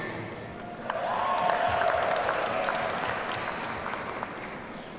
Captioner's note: audience cheering